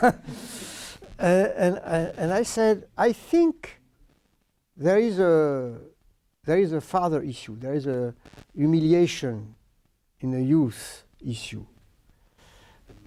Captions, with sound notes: [continued laughter] I said, I think there is a father issue. There is a humiliation in the youth issue.